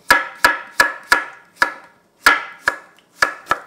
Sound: chopping

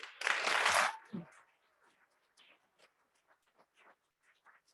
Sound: audience clapping

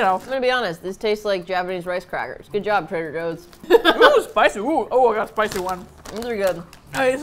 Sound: laughs

